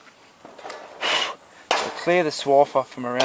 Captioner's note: blowing